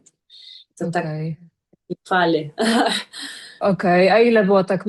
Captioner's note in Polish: śmiech